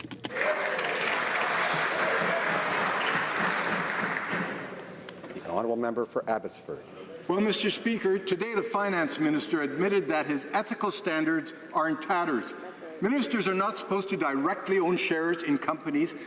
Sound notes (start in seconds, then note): 4.4 some Applause